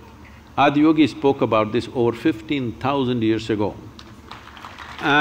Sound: applause

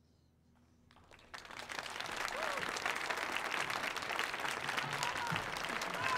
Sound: audience applauding

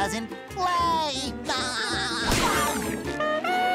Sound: laughing

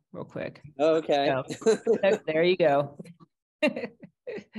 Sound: laughs

